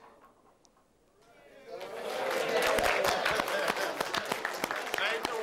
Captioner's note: applause and cheering